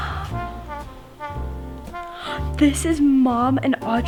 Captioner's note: gasps